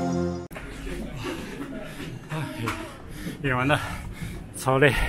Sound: out of breath

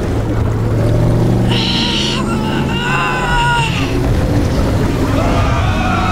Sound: groans; screaming

